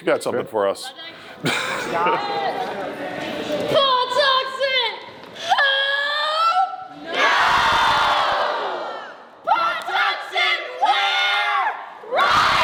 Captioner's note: chant